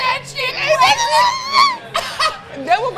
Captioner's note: high pitch squealing